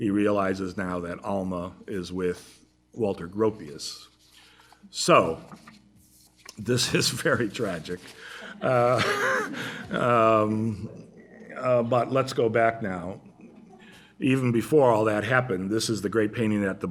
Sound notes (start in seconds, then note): 8.4 laughter